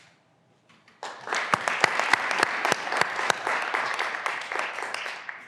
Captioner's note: graduands applauding